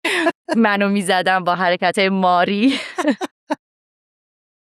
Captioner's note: laughs; laughs